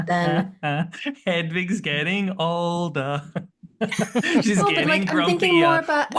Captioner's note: chuckles